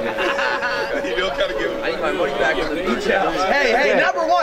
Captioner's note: more player chatter; players chattering and laughing